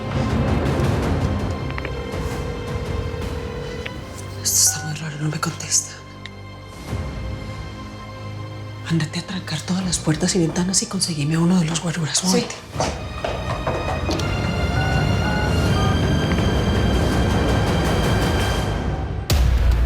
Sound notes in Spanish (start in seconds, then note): 13.3 Sonido al marcar